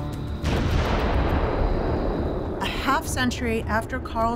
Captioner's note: explosion roars